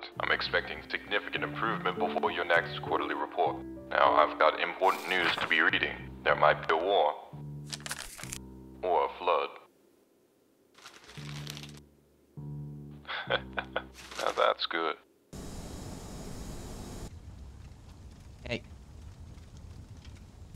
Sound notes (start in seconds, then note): 13.0 chuckles